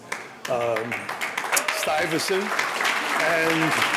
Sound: audience applauding

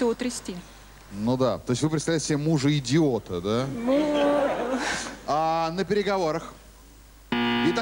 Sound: laughter

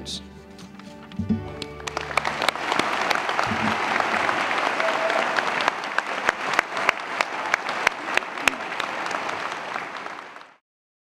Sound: applause

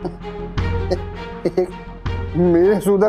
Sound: laughs

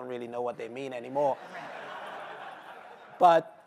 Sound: laughter

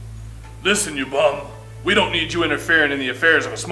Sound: hick voice

